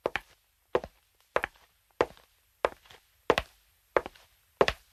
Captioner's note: footsteps